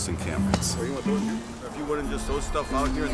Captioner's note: distant chattering